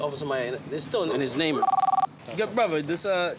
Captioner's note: phone rings